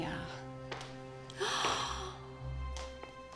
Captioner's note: gasps